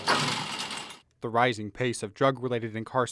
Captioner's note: gate closing